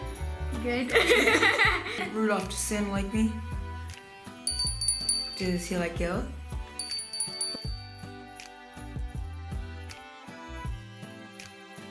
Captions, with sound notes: Good? (laughing) - Rudolph, does Santa like me? (bell ringing) Does he like you? (bell ringing) (slow beat music)